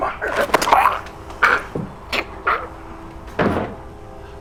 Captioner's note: grunting